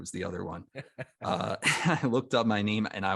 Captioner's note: laughs